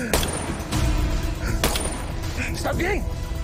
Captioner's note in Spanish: Disparos